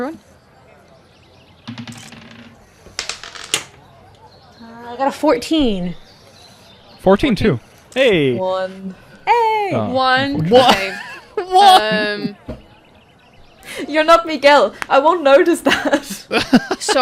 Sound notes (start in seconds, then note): 10.1 laughing; 10.4 laughter; 15.9 laughs